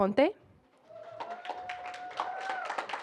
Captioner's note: applause